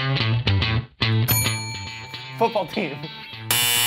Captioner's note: upbeat music; bell rings